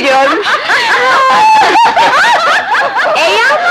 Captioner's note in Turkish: Kahkahalar devam ediyor